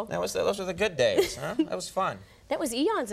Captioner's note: Nancy laughs